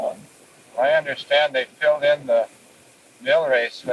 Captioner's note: cassette audio